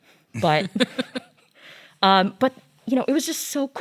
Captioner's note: laughs